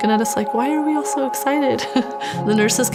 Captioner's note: laughs